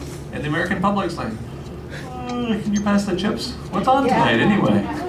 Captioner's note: yawn